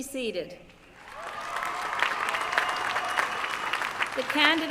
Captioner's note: applause